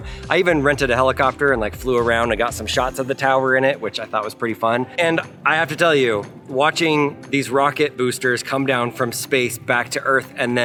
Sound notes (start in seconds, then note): none